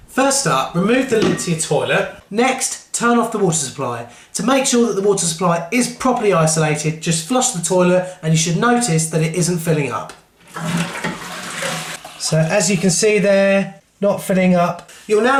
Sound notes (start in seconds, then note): 10.4 flushing sound